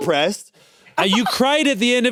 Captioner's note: chuckles